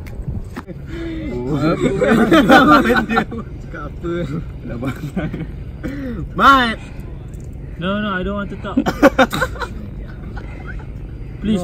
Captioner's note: chatter